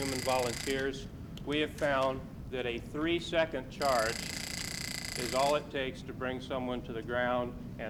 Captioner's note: taser noise